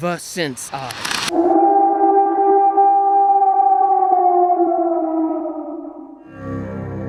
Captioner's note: Dire wolf howl